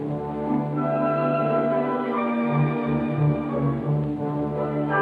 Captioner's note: none